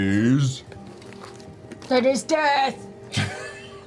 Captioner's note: Grog voice; laughs